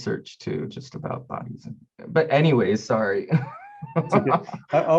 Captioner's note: laughing